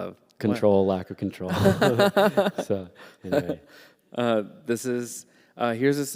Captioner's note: laughter